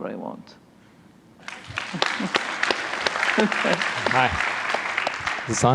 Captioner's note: applause